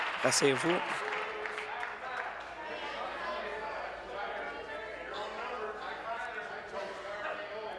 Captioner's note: applause